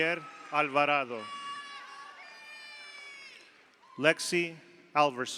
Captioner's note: audience cheers; audience applauds